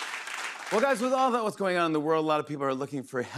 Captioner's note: normal voice